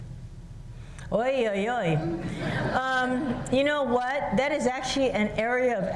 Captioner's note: laughter